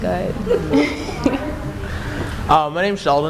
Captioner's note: laughter